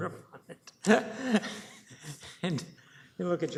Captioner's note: laughing